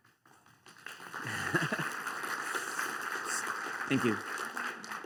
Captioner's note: applause